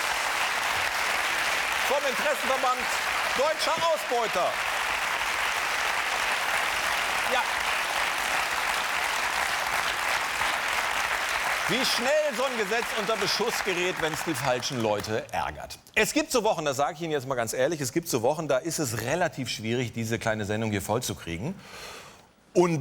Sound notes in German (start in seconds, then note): 0.2 Applaus; 5.7 Applaus